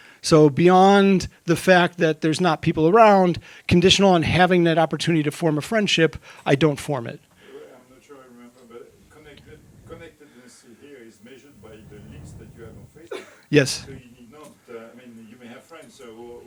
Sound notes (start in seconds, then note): 11.0 faintly speaking